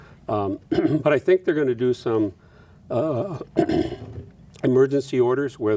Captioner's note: clears throat